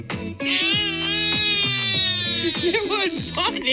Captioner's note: upbeat music; babbles